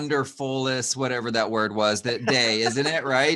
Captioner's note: laughing